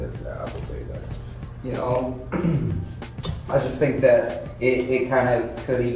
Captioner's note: clears throat